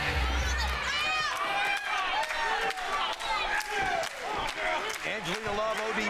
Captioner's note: crowd noise